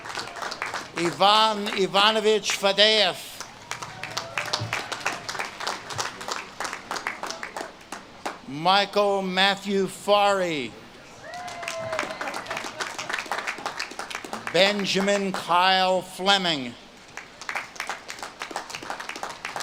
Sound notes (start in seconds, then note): 0.0 audience claps and cheers; 11.2 audience claps and cheers